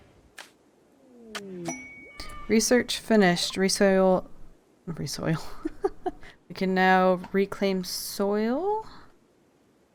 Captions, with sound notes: Research finished... resoil...?? Resoil *laughs at self* We can now reclaim soil...